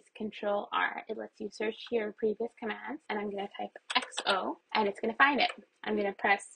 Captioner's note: keyboard presses